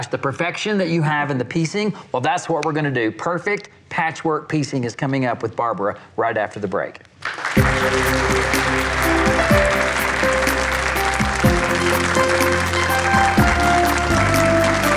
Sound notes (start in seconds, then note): 7.2 applause; 7.5 upbeat music